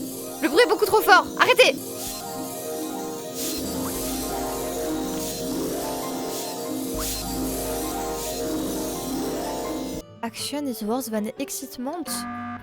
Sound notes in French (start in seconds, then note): 1.8 cacophonie de bruits de montée de niveau